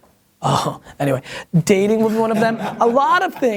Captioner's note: laughter